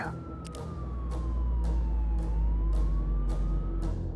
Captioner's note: police sirens blaring; dramatic music